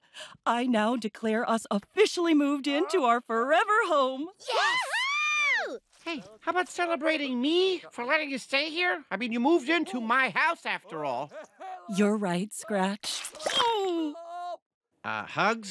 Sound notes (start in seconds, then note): 5.7 muffled yelling; 11.3 yelling continues